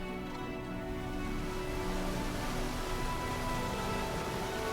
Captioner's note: river rumbling